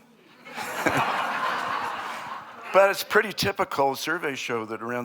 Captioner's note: laughter